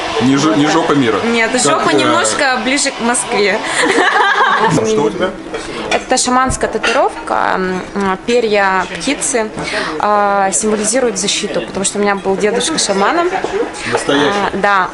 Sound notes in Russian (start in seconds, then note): 3.7 смех